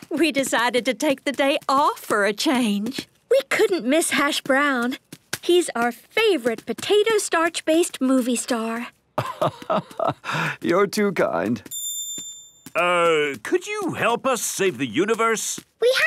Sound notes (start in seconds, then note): 9.2 laugh